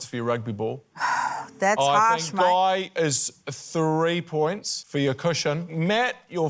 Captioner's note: sighs